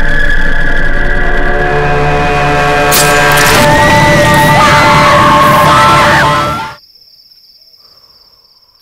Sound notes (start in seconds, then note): 3.0 screams